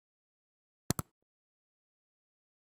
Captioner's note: click